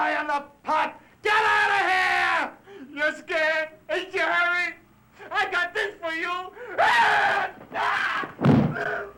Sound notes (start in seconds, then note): 6.7 screaming